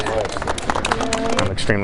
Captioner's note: girls clapping